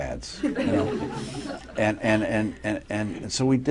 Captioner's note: laughter